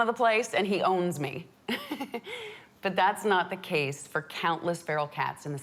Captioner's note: laughs